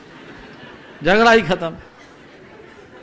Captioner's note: laughter in background